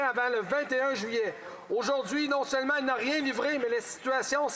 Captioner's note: speaking French